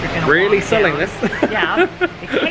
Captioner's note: laughing